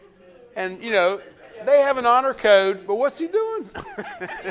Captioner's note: laughs